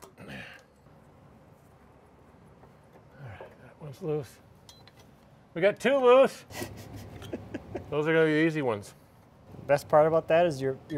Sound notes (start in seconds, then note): 6.5 laughing